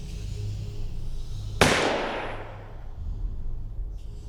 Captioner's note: gunshots